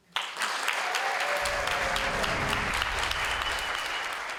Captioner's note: audience applauds